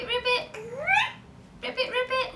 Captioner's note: babbles